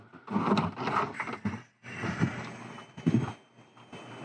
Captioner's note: air escaping